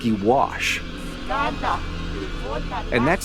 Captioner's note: speaking in tongues